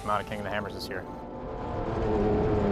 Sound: engine roars

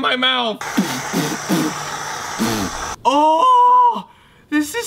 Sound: spitting; spray can hissing

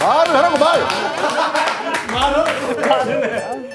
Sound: they're dying of laughter even before the game begins

